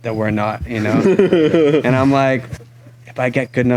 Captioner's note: laughs